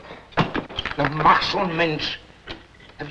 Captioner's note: foreign language